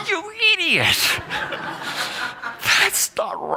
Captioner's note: laughter